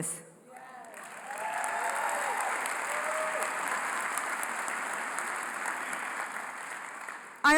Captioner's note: applause